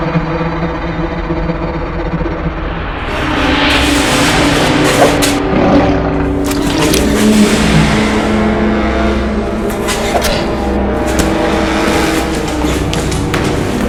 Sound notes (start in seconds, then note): 6.3 skinwalker growls